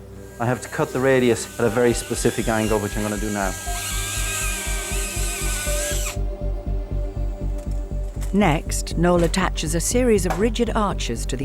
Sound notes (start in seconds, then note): 3.9 drill whirring; 3.9 tense music